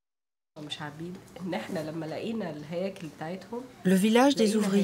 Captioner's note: Arabic spoken audio